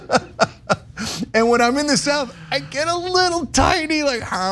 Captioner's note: laugh